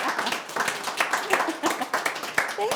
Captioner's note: laughs